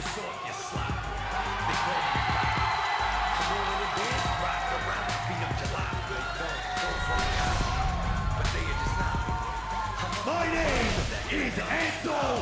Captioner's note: cheers and applause